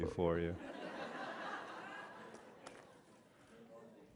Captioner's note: laughter